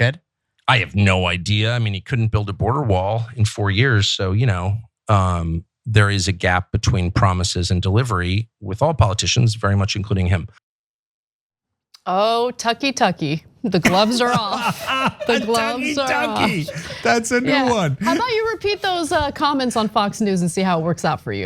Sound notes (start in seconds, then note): 13.8 laugh